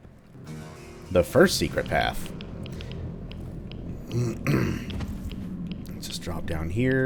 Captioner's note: riff plays; clears throat